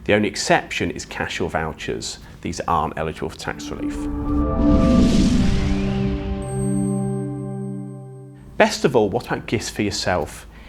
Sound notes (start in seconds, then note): 3.4 gentle music; 3.5 graphics whooshing